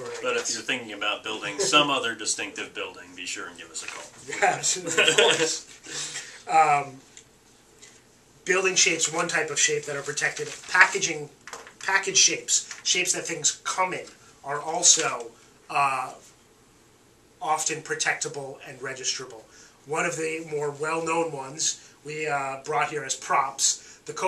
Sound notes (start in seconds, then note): 4.4 laughing